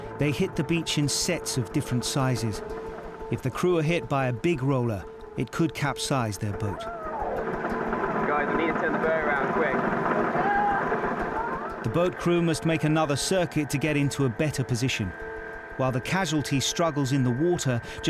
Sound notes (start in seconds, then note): 6.7 casualty groans; 6.8 boat droning; 10.1 casualty groans